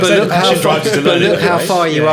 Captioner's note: group chattering